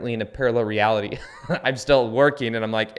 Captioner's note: laughs